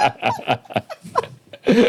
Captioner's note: laughing